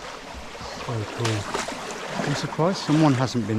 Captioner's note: water sloshing